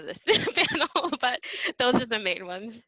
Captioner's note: laughs